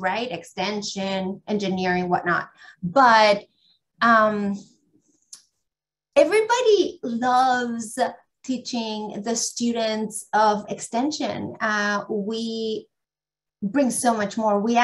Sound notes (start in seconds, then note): none